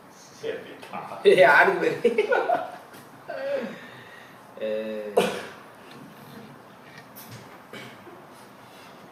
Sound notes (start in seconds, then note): 2.1 WAH ZHAI giggles